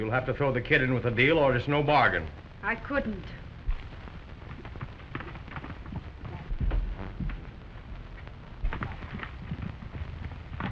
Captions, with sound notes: You'll have to throw the Kid in with the deal, or it's no bargain. I couldn't. [hooves clattering]